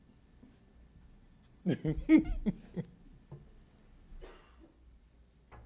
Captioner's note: laughs